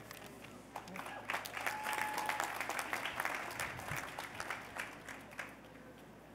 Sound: applause

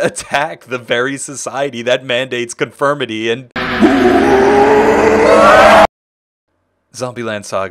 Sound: zombie growl

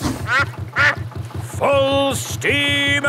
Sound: quacks

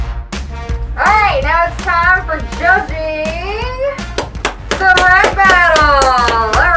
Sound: applause

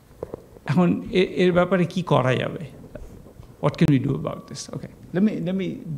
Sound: speaking bengali

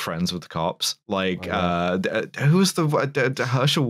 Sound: stammers

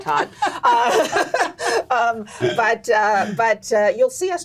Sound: laughing

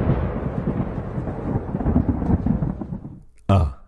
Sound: thunder and rain

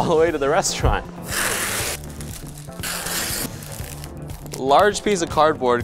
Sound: tape tearing

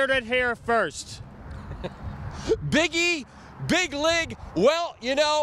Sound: laughing

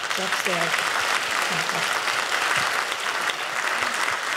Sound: audience clapping

